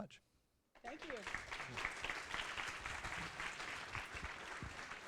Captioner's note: applause